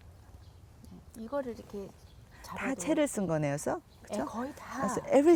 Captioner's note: speaking Korean